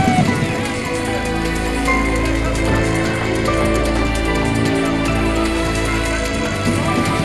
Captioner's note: machine whirring; people chattering